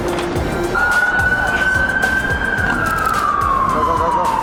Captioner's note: sirens blaring